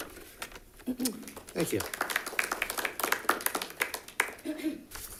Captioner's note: all clapping